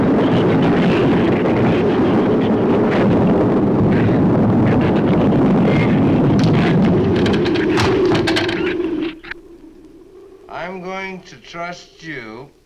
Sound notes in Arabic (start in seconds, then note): 0.1 ثرثرة الزبابة; 7.5 صوت دوي فرع